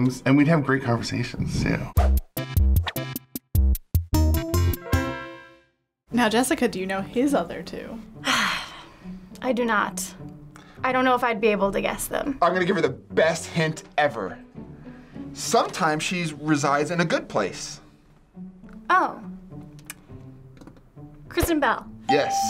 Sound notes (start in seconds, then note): 1.9 quirky interlude; 8.2 sighing